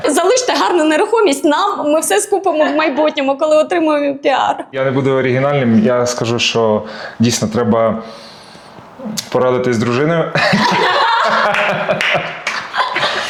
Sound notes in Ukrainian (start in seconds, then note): 10.4 сміх